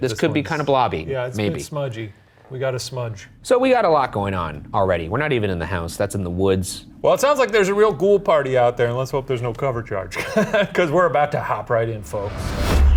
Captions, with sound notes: This could be kind of blobby, maybe. - It's a bit smudgy. We got a smudge. - So we got a lot going on already. We're not even in the house, that's in the woods. - Well, it sounds like there's a real ghoul party out there. And let's hope there's no cover charge. (laughs) 'Cause we're about to hop right in, folks.